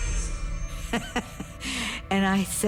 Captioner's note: laughing